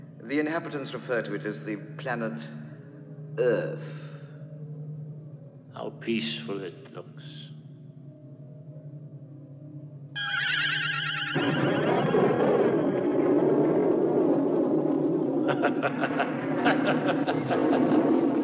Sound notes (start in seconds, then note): 11.3 rumbling; 15.4 ming laughing evilly